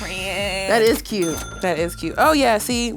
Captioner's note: cash register dings